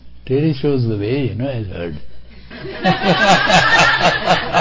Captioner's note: laughter…